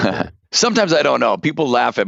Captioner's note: laughs